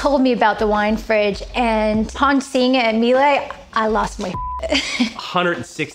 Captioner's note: beep